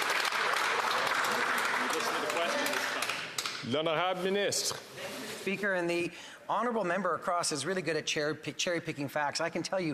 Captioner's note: some Applause